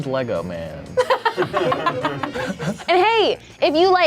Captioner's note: group laughs